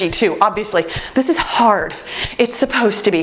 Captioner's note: timer beeps